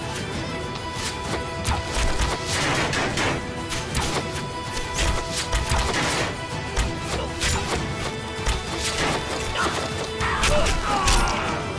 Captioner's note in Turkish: Ok sesleri